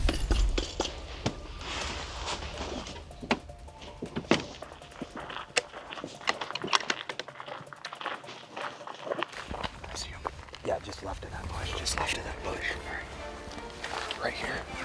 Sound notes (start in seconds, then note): 0.0 keys clanking; 3.1 door closing; 5.1 boots crunching